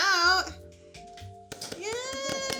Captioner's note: everyone applauding